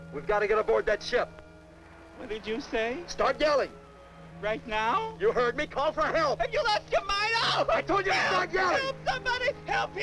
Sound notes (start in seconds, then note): 6.3 yells